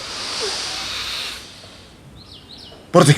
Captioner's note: he Inhales